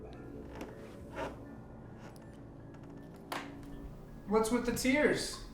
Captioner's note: footsteps squeaking